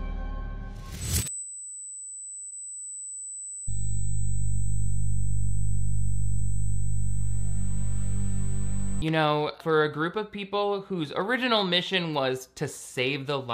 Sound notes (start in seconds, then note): 1.3 tone ringing